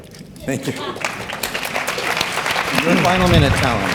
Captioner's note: audience clapping